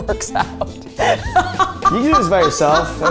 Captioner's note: laughs